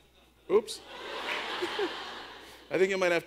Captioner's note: audience laughs